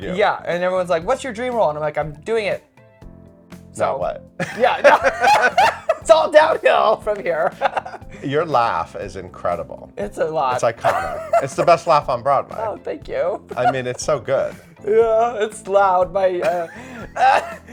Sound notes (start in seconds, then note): 4.4 both laughing; 10.8 laughing